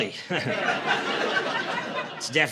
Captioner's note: laughter